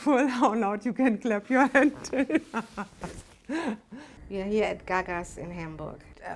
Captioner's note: laughs